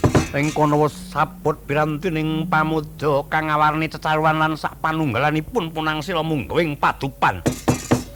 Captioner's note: fireplace